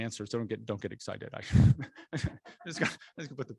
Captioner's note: chuckling